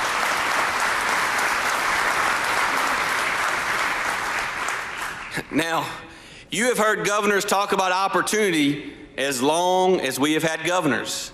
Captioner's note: applause